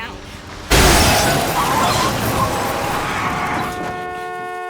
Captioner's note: cars crashing; tires screeching; horn blaring